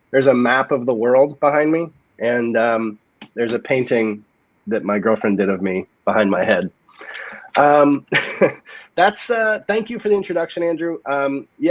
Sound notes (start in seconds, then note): 7.0 chuckles